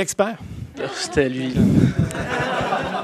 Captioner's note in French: rires